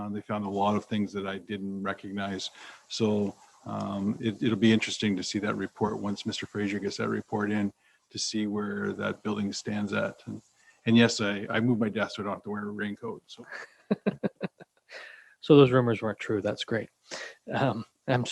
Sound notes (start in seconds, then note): 13.4 chuckles